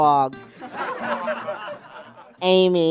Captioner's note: laughter